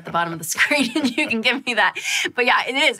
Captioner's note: laughing